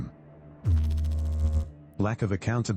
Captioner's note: electrical noise